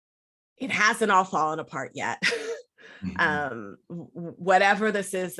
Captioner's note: laughs